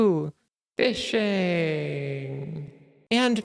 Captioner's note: reverb